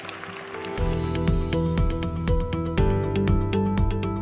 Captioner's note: cheers and applause